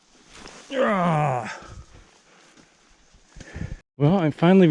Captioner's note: groans